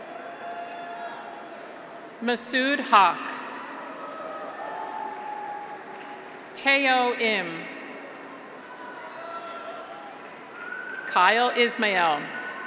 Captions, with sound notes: (graduates cheer) Masud Haq. (graduates cheer) (audience applauds) Taeho Im. (graduates cheer) (audience applauds) Kyle Ismail.